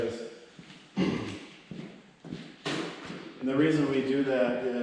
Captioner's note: clears throat